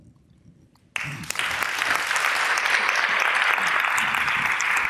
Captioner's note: audience applause